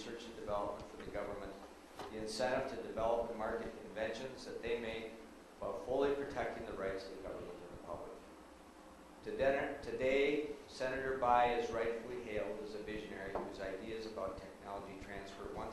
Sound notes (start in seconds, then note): none